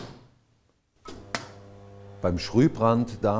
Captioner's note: electrical humming